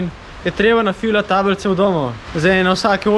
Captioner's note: fire